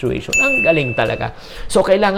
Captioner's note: chimes